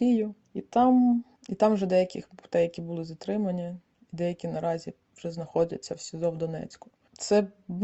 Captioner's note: Ukrainian